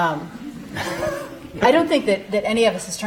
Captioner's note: audience laughing